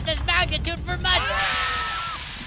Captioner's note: screams